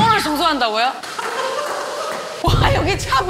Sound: the staff's hysterial cry

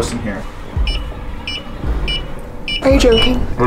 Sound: sensor beeping

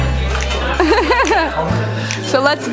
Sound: laughing

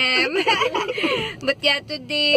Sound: laughs

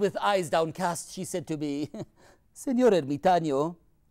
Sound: laughs

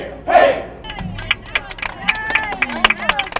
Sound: applause

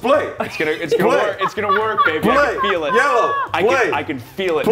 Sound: laugh

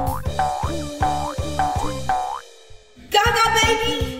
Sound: upbeat music; footsteps boinging

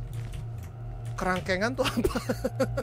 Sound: laugh

